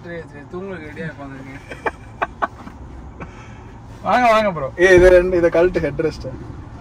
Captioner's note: Laughs